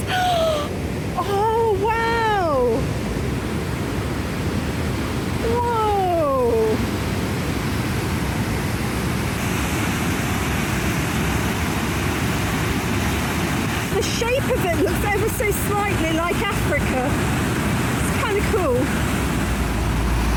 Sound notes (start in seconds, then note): 0.0 gasp; 3.2 loud waterfall